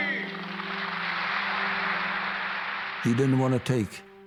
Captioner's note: audience applauding